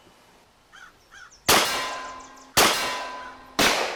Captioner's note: tin dings; gunshots blasting